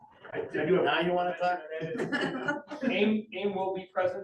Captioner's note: laughter